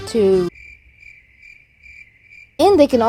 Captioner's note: cricket noises